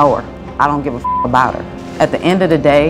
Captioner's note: beep